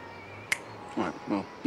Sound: Joe snaps

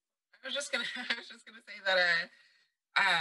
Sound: laughs

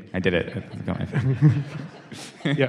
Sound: laughter

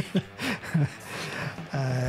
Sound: laughing

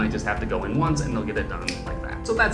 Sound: snaps

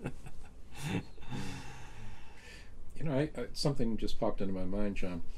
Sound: laughter

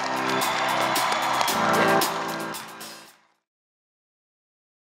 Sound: applause, cheering

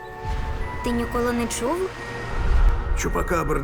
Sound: breeze blows

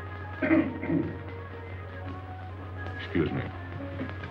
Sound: coughing

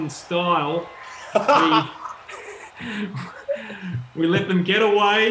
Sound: laughter

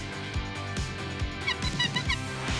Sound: giggling

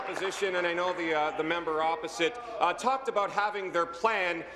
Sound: applause

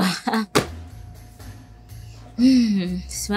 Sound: dough thudding

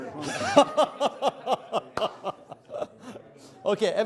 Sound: laughs

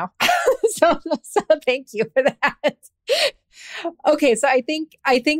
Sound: laughs

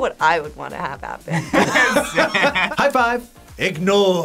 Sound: laughs

